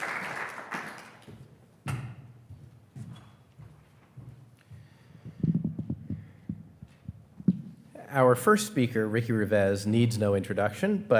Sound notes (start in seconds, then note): 1.9 footsteps plodding